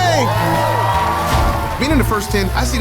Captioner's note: crowd cheers